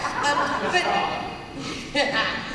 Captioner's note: laughter